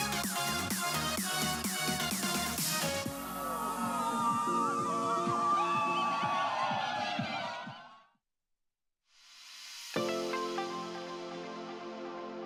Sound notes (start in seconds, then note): 3.0 crowd cheering; 9.9 bright music